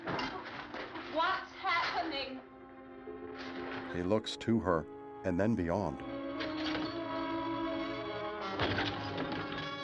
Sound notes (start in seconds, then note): 6.3 glass shatters